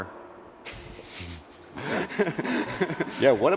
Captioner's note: laughing